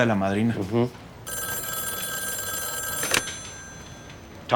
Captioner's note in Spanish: Suena el teléfono